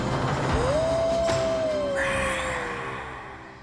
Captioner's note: lady howling; lady roars softly